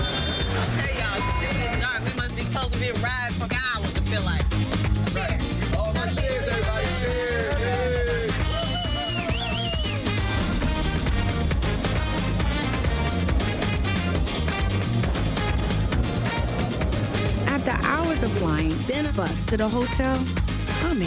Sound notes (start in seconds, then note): 0.0 horns honking; 1.1 beep; 7.2 man whistling; 8.5 group cheering; 10.6 upbeat Trinidadian music continues